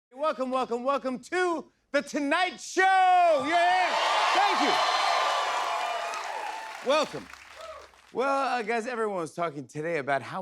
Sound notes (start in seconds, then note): 3.4 cheers and applause